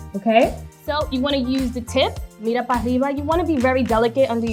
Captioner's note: speaking foreign language